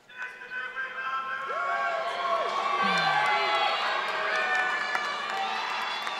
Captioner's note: members of the audience cheer